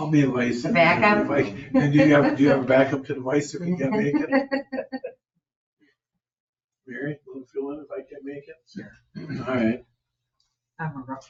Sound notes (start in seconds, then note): 3.6 group laughs